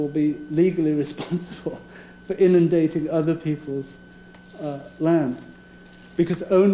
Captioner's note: laughing